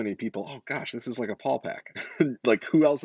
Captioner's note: laughs